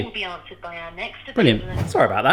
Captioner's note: automated Voice